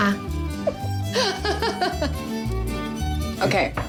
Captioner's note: pati laughing